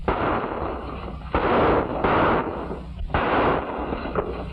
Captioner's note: gunshots